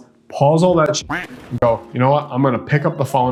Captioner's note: duck quacking